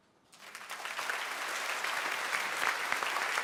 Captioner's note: applause